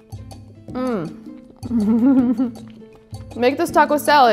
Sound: chuckles

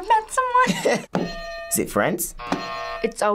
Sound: bell rings; buzzer rings

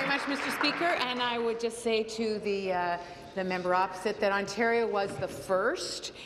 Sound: applause

